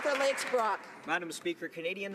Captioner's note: some Applause